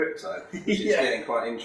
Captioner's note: chuckles